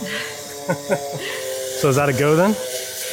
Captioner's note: both laughing